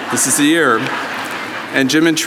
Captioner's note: audience laughing